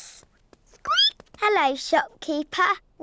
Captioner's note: squeaks